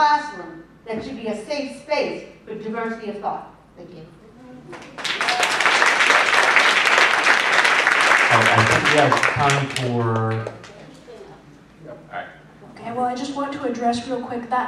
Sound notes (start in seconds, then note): 4.7 applause